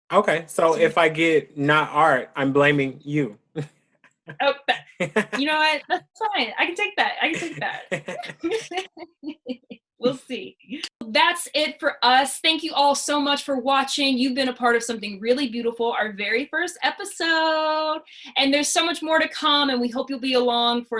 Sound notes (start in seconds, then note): 4.8 laughs; 7.2 both laugh